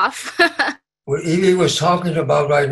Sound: laughs

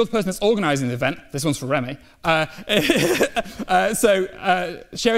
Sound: laughs

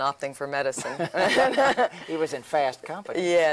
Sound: laughs

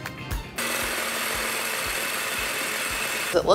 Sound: food processor buzzing

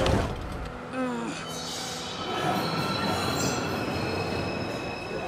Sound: musician grunts

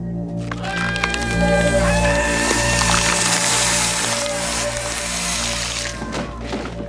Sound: KAEMPFFER screams

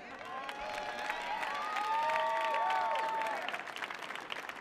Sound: audience cheering

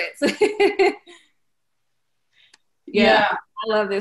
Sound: laughing loudly

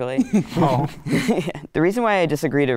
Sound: participants chuckle

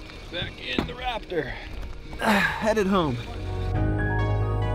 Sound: grunts; soothing synth music

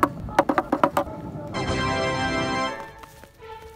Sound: 20 Firecrackers

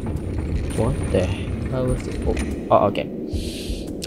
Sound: door closes

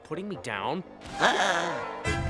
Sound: gasping

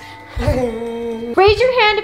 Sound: Stephen groans

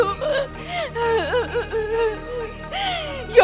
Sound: crying

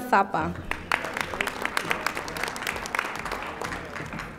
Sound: audience applauding

